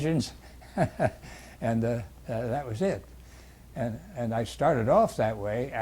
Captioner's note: laughs